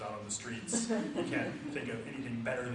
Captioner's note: audience laughs